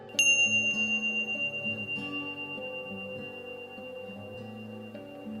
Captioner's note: bell rings